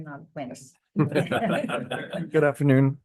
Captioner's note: attendees laughing